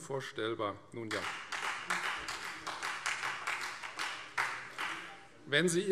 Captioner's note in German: Beifall Freie Demokraten